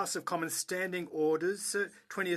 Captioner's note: speaking French